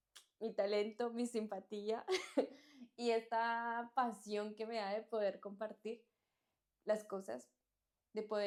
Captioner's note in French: rires